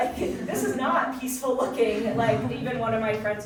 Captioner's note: audience chuckling